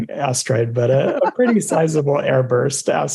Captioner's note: laughs